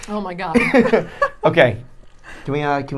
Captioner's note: laughing